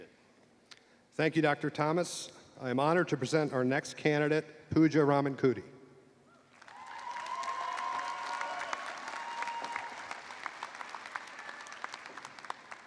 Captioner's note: cheers and applause